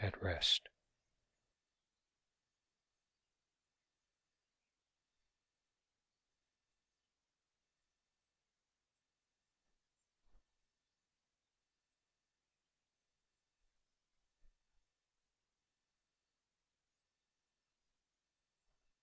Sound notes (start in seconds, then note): 1.3 silence